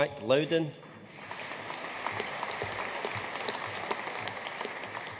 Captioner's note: audience applauding